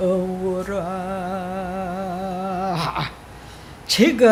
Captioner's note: chanting